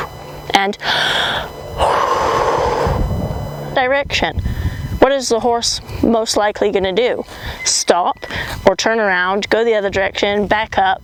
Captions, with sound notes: [breathes out]. Direction. What is the horse most likely going to do? Stop or turn around, go the other direction, back up?